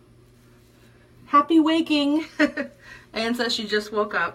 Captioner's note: chuckles